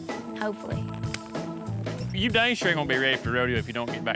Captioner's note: high-five clap